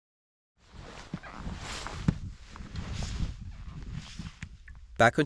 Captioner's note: sound of skis